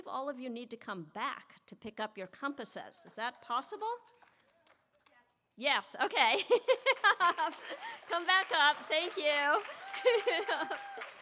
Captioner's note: laughs